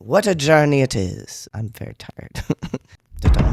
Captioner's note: laugh